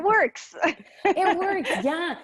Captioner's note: laughs